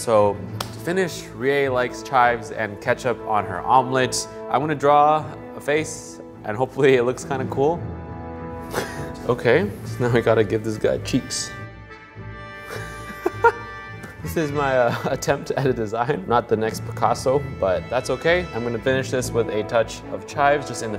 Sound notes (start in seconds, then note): 8.8 chuckles; 12.6 laughs